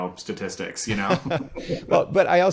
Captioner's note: laughing